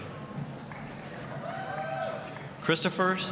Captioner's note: applause, cheering